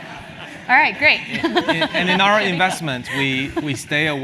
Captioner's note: laugh